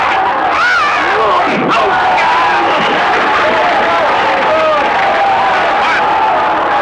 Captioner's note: crowd yelling; whacking